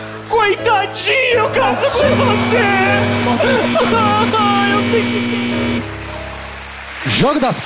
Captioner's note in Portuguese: campainha e aplausos